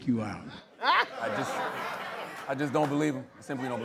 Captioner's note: laughter